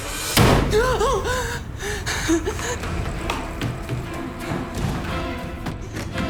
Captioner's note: loud bang; she gasps